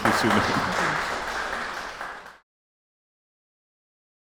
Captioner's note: applause